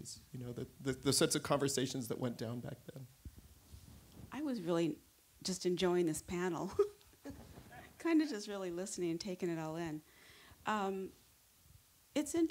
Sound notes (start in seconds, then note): 7.2 chuckles